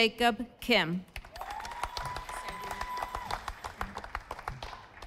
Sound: audience applauding

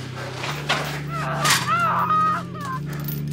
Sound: screams

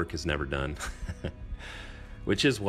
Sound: laughing

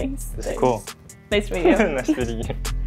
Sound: laughs

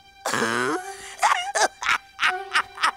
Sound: laughs crazily

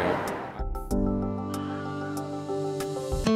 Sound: Wilhelm scream

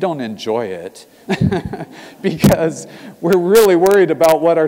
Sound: laugh

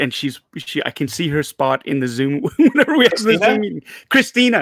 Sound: laughing

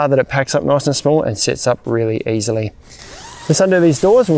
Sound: zip hissing

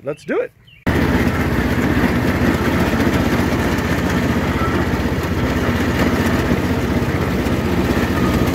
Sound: lawnmower noise

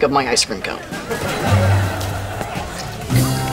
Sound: laughing

